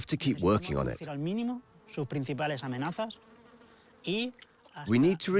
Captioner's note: French spoken audio